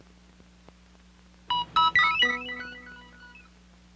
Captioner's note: Electronic audio effect